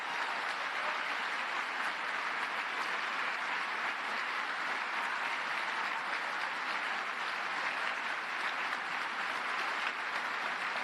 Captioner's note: applause